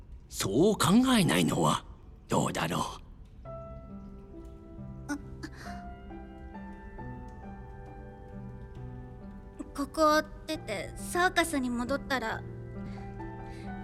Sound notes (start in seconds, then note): 3.7 hopeful music plays; 5.5 stammers